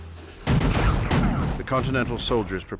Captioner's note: gunshots firing